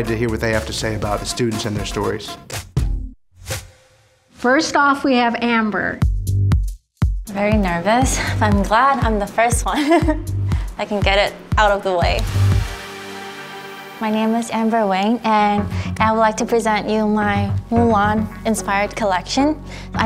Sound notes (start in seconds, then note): 9.8 nervous giggle